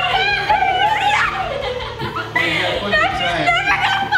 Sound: laughs

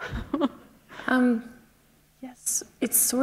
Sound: chuckle

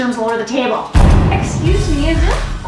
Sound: dramatic Boom

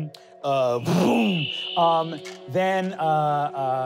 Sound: wooshing

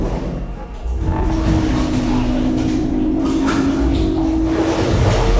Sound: water frantically splashes in the background

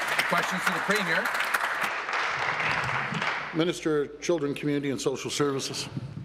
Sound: applause

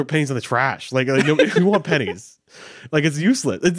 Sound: laughing

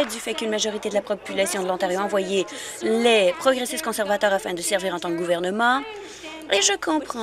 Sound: some applause

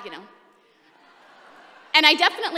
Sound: laughter

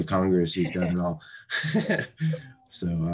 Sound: laughs

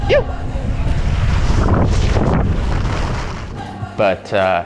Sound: air whooshing

